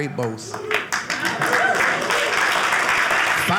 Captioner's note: audience clapping